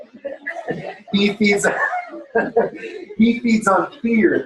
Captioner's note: laughter